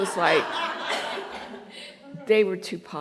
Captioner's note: laughter